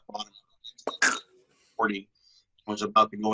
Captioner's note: tongue clicks